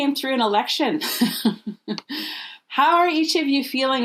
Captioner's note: laughing